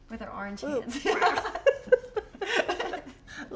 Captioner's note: both laughing